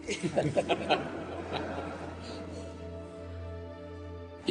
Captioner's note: audience laughing